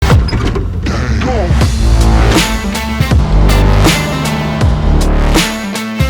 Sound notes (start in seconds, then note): 0.2 door clicking; 1.1 worker grunting; 1.5 upbeat music